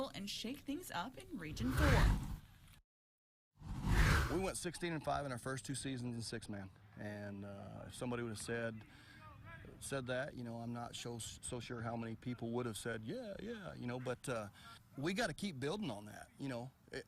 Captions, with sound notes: and shake things up in Region 4. (air whooshes) We went 16-5 in our first two seasons in Six-Man. And if somebody would've said said that, I'm not so sure how many people would have said, "Yeah, yeah." But we gotta keep building on that.